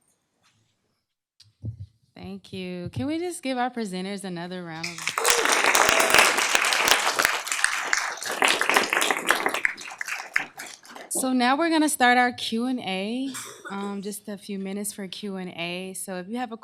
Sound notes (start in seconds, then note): 4.8 applause, cheering